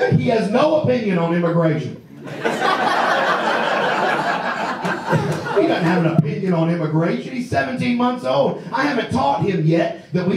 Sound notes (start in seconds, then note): 2.2 audience laughs